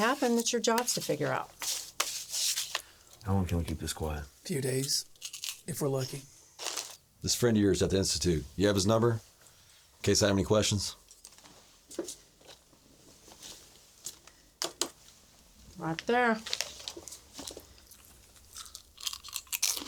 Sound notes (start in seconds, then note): 16.5 crunches